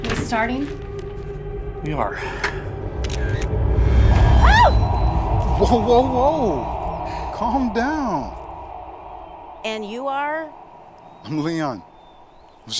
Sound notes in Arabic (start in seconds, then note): 2.8 موسيقى مشؤومة; 2.8 نقرات الكاميرا; 4.2 تصرخ راشيل